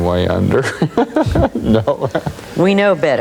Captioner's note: laughs